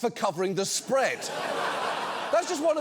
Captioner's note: audience laughs